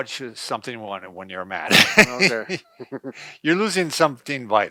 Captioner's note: laughs